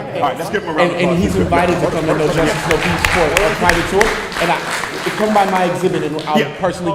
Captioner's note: applause